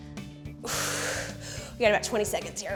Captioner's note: exhales